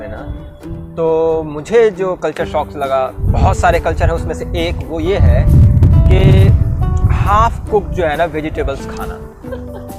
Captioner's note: both laughs